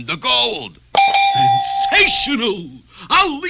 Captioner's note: idea accepted Bell Dings